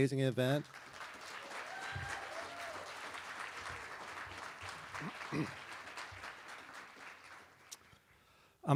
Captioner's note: applause